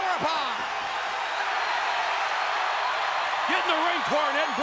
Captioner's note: crowd cheers